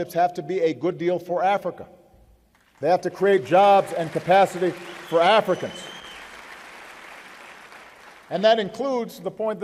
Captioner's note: applause